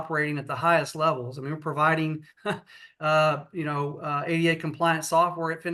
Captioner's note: laughs